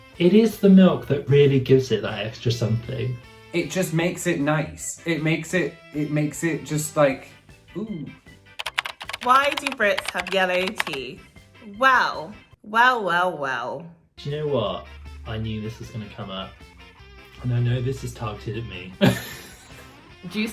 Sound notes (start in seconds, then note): 8.5 keyboard clacking; 19.9 laughs